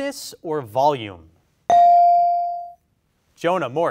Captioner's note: bell rings